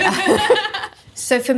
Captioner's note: both laugh